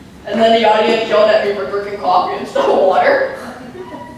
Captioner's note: laughter